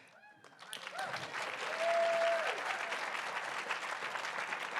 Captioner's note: audience applauding